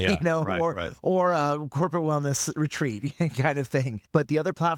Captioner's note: laughing